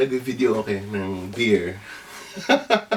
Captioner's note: laughs